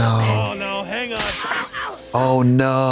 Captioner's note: electricity zapping